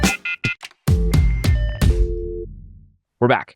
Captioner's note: phone ringing; upbeat music; tone beeping